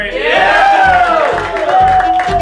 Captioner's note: everyone cheers